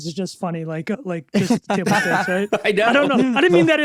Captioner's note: other speakers laughing